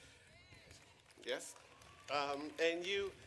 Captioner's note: audience clapping